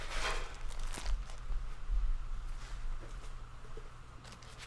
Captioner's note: paper rustling